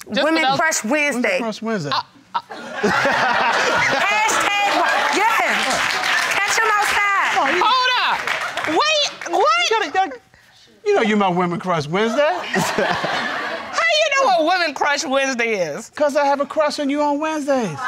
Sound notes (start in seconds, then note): 2.4 audience laughing; 12.4 laughing